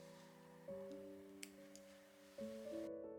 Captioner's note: snip